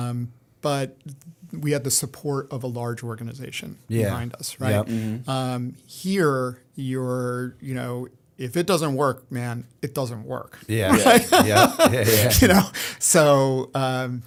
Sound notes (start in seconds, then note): 10.8 laughter